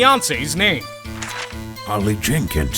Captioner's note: paper rustles